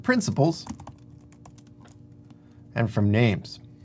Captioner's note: keyboard typing